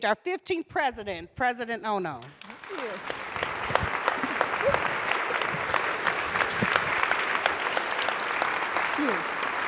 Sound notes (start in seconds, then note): 2.3 audience appluading